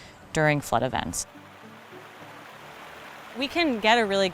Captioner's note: water flowing